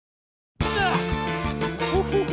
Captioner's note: grunts